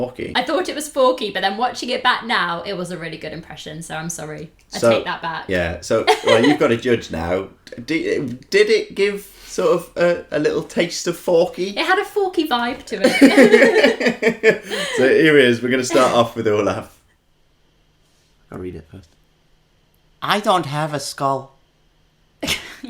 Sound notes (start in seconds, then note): 13.0 laughter